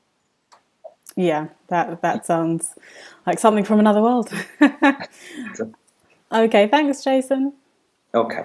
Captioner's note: laughing